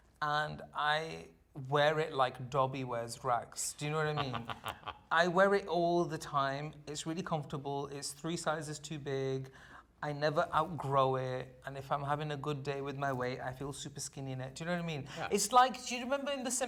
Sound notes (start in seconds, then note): 3.9 laughing